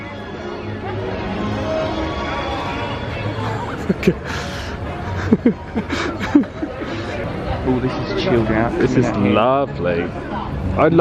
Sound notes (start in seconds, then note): 0.0 choral music; 5.1 laughing